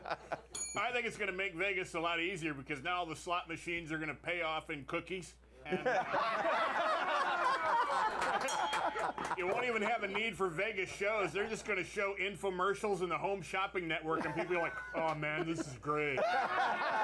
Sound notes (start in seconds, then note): 0.5 bell rings; 5.6 laughter; 8.4 bell rings